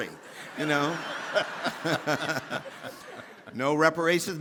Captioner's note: audience laughing; laughing